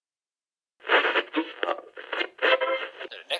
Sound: radio static

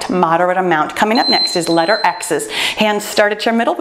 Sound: timer beeps

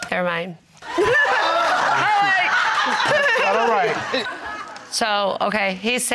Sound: chuckles; everybody laughing

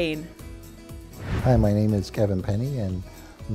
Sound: swoosh

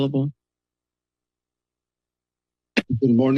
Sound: silence

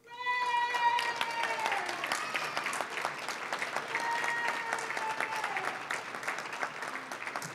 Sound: applause, cheering; applause

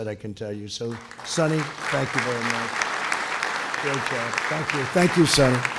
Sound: applause

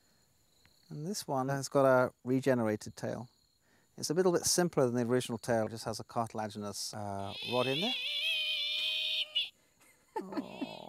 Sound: gecko screeches

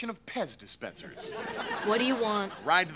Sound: audience laughing

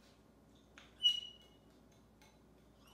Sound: whistling

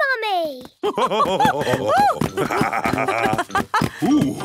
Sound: both laugh

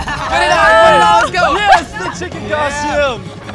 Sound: laughing

